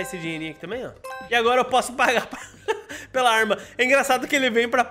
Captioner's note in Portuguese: risos